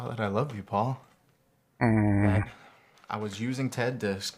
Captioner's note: groaning